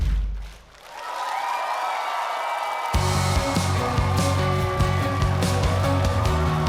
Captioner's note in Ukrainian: оплески